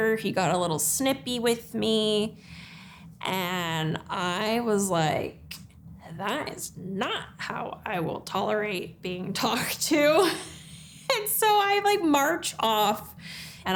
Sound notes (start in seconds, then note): 10.5 laughs